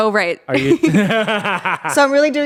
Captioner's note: everyone laughs